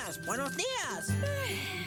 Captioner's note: yawn